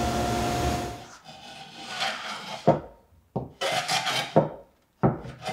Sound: tool scraping

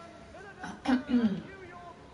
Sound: clears throat

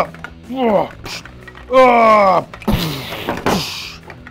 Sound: grunting

